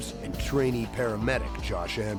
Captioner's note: voiceover